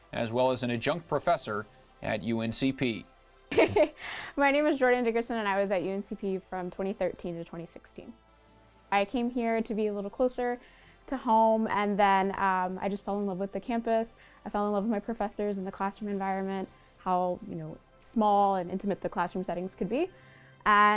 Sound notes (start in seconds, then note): 3.6 laughs